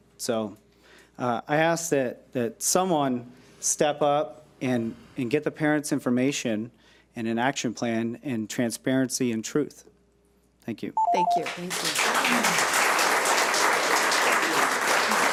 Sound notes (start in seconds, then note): 11.0 timer beeps; 11.2 audience applauds